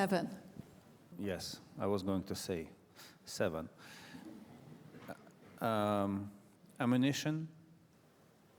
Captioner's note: laughter